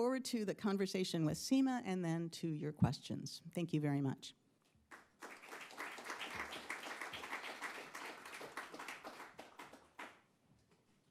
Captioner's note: applause